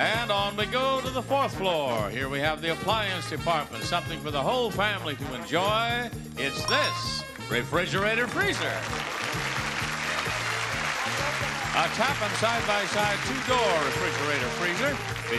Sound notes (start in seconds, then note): 8.5 audience cheering